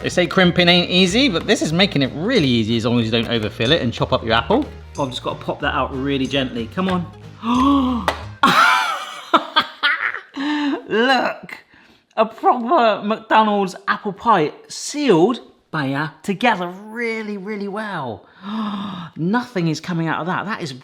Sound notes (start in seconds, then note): 7.3 gasps; 8.4 host laughs; 8.4 lid knocks; 18.2 gasps